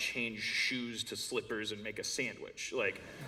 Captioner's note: laughter